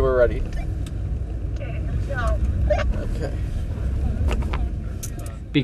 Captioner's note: on walkie-talkie